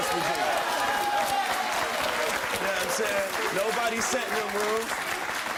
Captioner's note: audience applauding